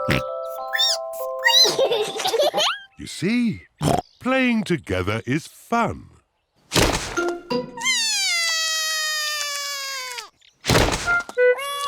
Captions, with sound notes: -(OINKS) -(SQUEAKS) (BOTH GIGGLE) See? Playing together is fun. (CRIES)